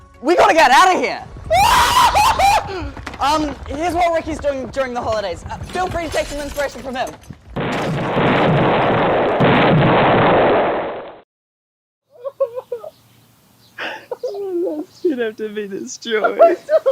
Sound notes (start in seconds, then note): 7.6 building gets demolished; 12.0 sobbing